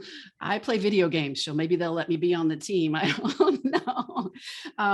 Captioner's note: laughs